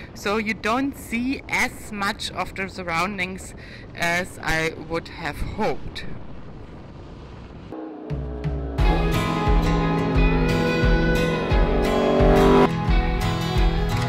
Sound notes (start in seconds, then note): 7.7 engine revving; 8.1 upbeat music